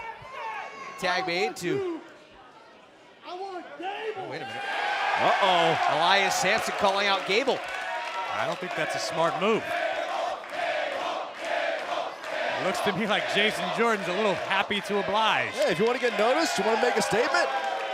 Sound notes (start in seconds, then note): 5.7 cheers & applause; 10.4 fans chanting